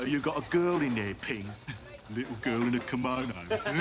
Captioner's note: laughs; all laugh